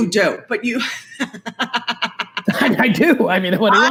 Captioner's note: laughs